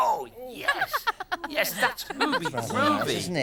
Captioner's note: laughing